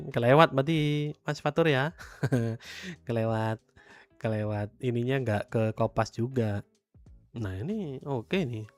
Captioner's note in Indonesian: tertawa